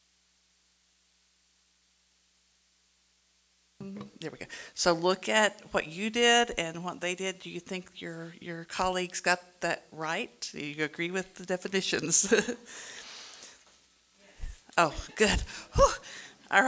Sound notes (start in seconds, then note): 12.2 chuckles